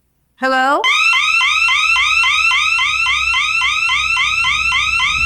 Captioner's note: siren blaring